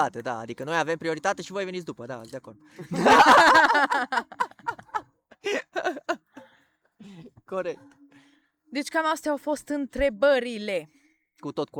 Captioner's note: everyone laughs